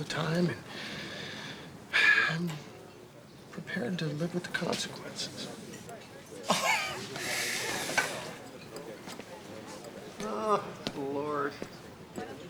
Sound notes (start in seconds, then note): 6.4 chuckling